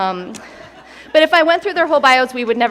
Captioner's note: attendees laugh